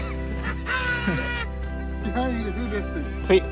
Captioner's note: laughing